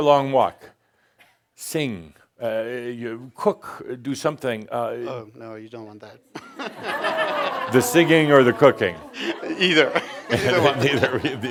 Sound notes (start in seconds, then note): 6.3 laughter; 6.3 they chuckle; 8.8 Adamus chuckles